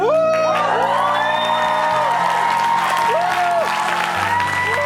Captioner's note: applause